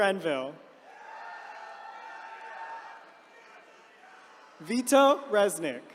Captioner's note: attendees cheering